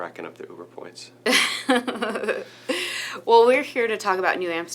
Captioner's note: laughing